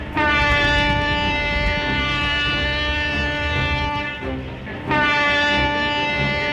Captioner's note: A train horn